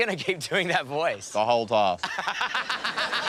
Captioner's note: laughs